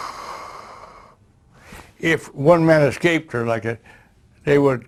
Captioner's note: exhales